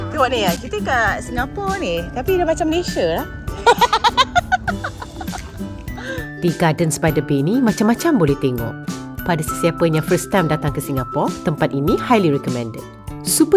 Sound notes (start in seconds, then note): 0.0 background music; 3.6 laugh